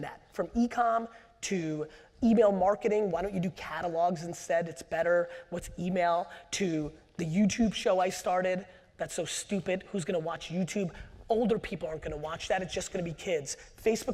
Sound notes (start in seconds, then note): none